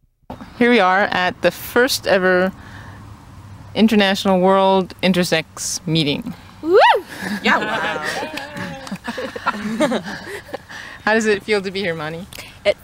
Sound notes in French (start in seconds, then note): 8.0 applaudissements/rires